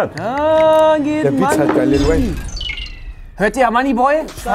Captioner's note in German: Gluckern